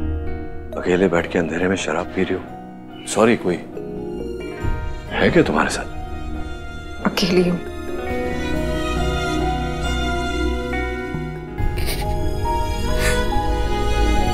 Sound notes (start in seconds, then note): 11.6 Poonam crying